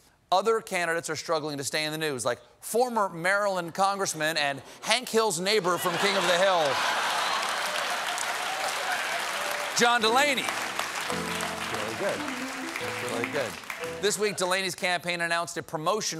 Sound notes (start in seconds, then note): 11.4 applause